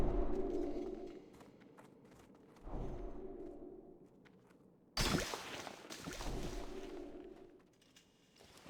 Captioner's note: suspenseful music; water splashing